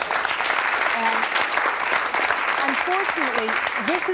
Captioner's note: audience clapping